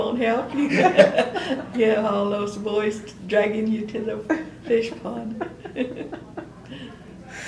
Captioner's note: laughter; laughs